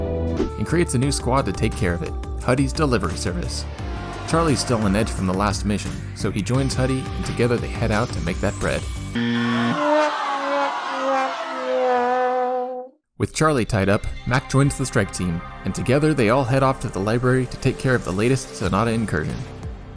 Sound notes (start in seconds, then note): 9.1 buzzer; 9.6 sad trombone plays